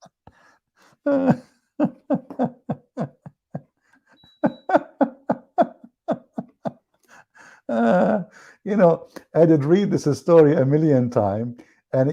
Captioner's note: Ketawa